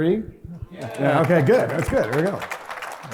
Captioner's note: applause